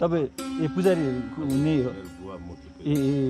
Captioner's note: hesitantly